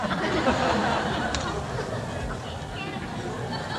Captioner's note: laughter